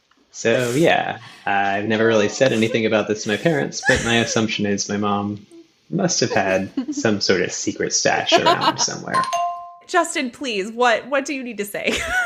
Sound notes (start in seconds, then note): 9.1 bingbong